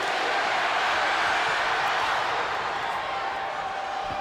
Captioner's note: spectators cheering